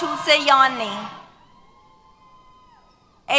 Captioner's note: cheers